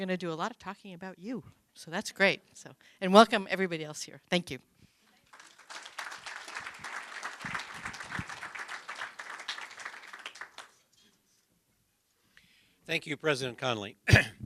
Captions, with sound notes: TO DO A LOT OF TALKING ABOUT YOU. SO THAT'S GREAT SO. AND WELCOME, EVERYBODY ELSE HERE. THANK YOU. [ APPLAUSE ] >> THANK YOU, PRESIDENT CONOLEY.